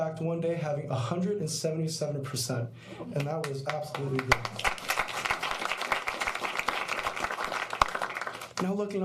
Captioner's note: applause